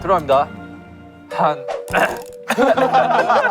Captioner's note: ahem